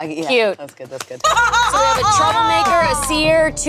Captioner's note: laughs